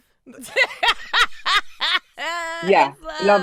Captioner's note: laughing